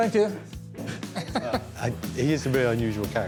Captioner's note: laughs